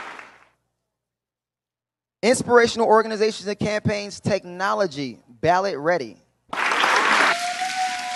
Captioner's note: applause